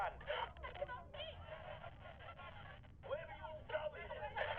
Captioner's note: angry voices in background over walkie talkie